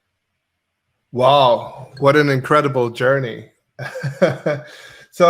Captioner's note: laughs